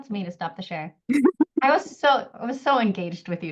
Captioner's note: laughs